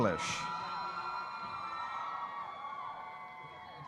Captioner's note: audience cheering